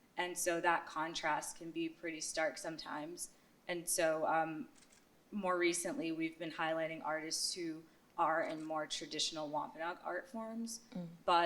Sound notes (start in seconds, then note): none